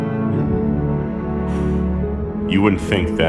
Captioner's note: exhaling